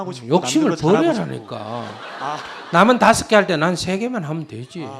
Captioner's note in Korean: 청중 웃음